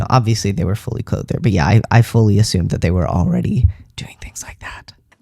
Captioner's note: whispers